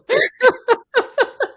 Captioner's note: laughing